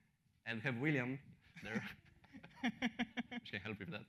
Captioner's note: laughter